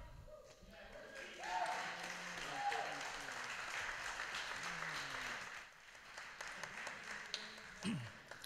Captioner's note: applause